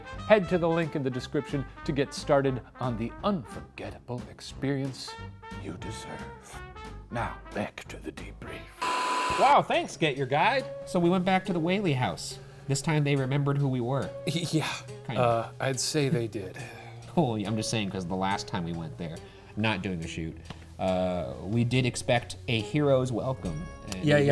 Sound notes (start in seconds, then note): 8.8 screen buzzing